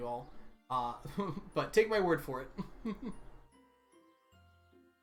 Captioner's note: laughs